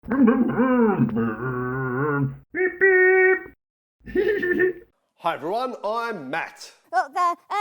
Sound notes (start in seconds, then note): 0.2 Scruff makes scooter noises; 4.1 Scruff laughs